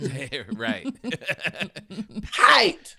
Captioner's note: laughing